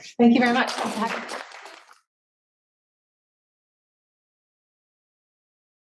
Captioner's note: audience applauding